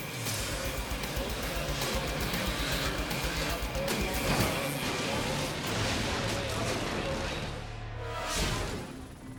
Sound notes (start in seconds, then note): 0.0 suspenseful music; 0.0 motorcycles whizzing; 4.1 motorcycle thuds; 5.3 motorcycle smashes; 7.8 transition whooshes